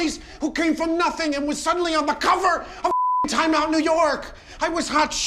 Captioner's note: beep